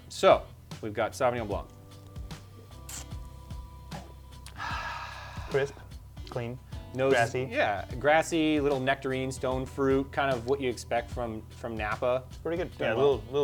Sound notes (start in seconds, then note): none